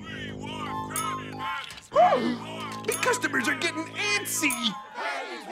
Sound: gasps

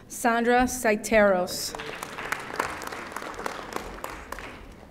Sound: audience applauding

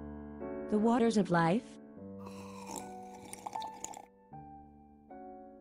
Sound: sip noise

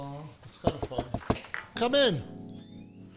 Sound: knocking on door

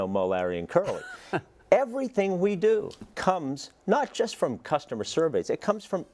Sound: laugh

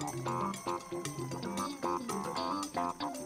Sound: crowd cheering; upbeat funky music continues

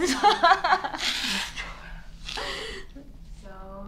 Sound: blows nose

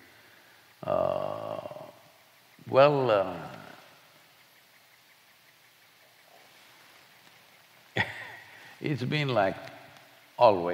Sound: laughs

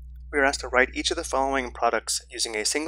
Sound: voiceover

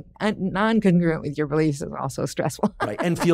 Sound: laughs

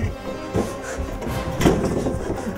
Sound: door Close; chuckles

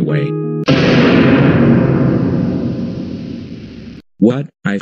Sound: ominous boom

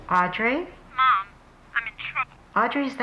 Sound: on phone

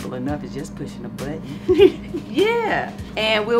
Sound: laughs

